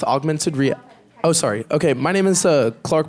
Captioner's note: speaks off the microphone